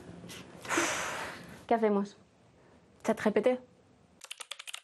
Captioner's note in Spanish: suspiro